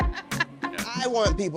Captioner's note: laughs